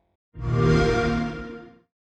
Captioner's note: Xbox startup sound